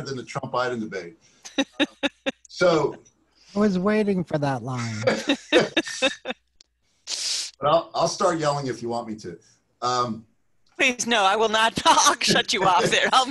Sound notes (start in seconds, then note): 1.4 laughs; 5.0 panelists Laugh